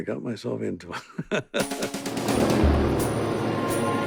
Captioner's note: laughing